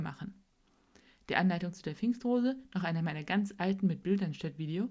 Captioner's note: German